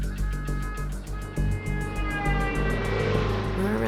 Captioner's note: car horn honking